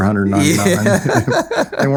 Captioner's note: laughing